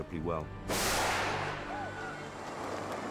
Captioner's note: screaming